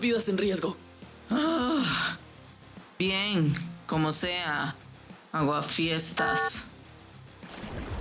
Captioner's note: sighs annoyed